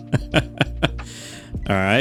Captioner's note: laughs